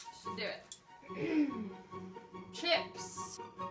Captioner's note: clears throat